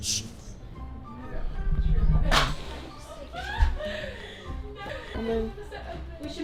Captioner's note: girls chattering and laughing